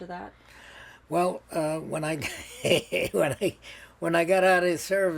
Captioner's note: laughing